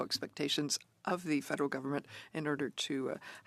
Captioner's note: speaking French